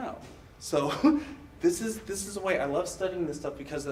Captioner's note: laughs